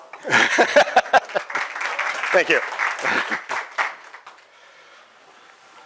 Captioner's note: clapping